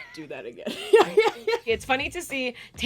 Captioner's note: laughing